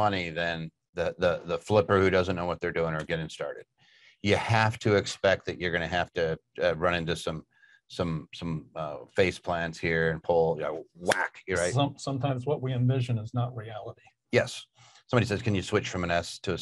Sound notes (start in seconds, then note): 11.2 smacks fist